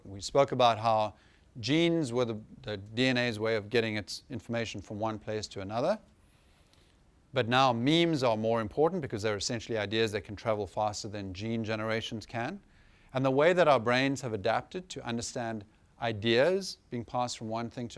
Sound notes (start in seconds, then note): none